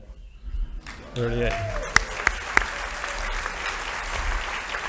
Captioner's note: audience applauding